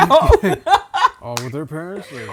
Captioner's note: laughing